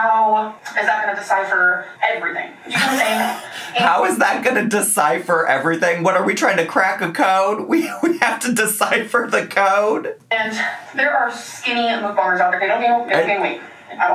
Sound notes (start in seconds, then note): 2.7 laughing